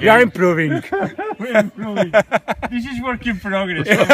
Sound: all laugh; all laugh again; all laugh

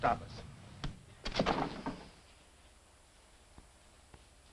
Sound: hand slaps

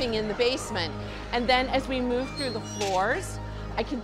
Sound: gate Closing

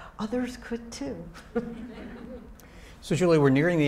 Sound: audience laughing

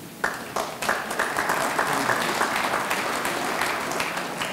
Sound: audience clapping

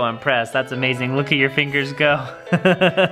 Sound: laughs

